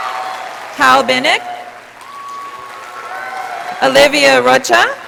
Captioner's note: audience applauding